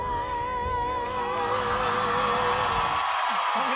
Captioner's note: cheers and applause